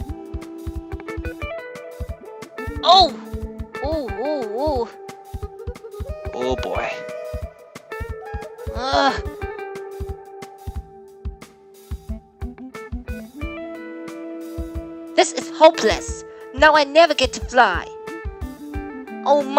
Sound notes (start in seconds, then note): 8.2 groan